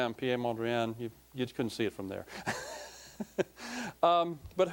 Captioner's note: laughing